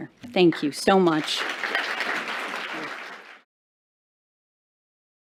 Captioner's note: applause